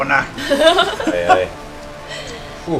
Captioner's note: laughter